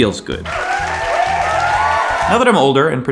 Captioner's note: inspirational music; crowd cheers